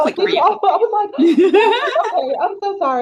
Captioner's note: chuckles